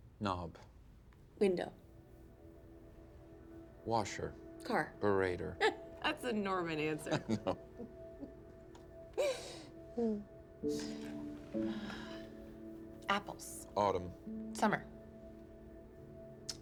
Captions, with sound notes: WINDOW. WASHER. -CAR. -...BURATOR. THAT'S A NORMAN ANSWER! -[BOTH LAUGHING] -I KNOW. [SIGHS] -APPLES. -AUTUMN. SUMMER. CREEK.